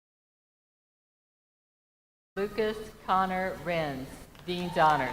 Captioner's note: names being called